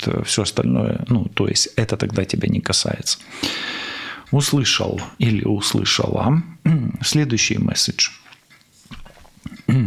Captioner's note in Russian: откашливается